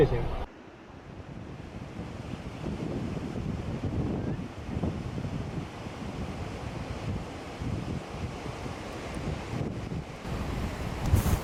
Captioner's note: wind blowing